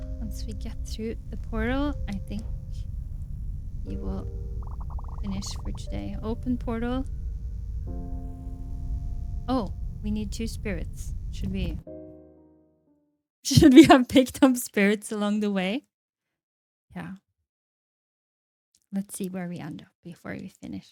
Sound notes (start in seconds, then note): 12.1 laughs